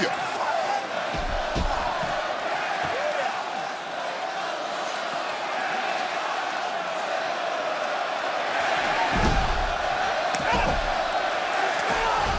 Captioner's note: crowd chanting